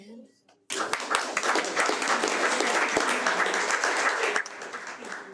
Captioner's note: audience applauding